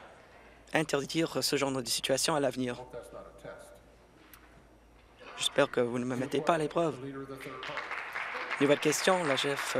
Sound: applause

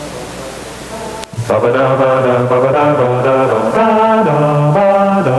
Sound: mid tempo humming

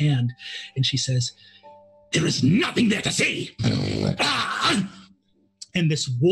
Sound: snarls

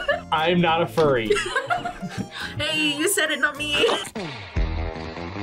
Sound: laughs; upbeat music

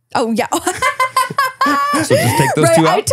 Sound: laughing

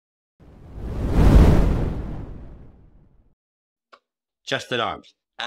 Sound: whooshing sound effect

